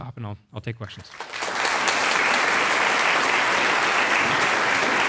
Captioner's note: audience applauds